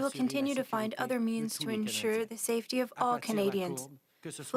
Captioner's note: speaking French